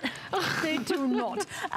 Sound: laughter

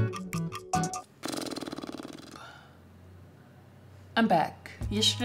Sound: blows raspberry

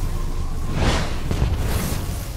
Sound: sonic boom; wind rushes

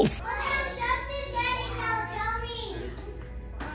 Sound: mumbles

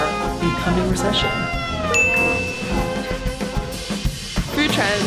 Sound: slow big band music; bell chimes

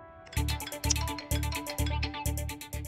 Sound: phone ringing

